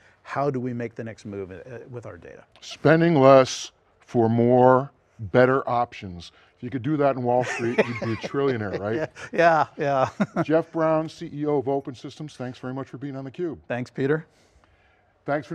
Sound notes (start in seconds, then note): 7.4 laughs